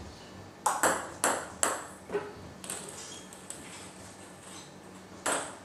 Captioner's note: ball ping pong hitting continues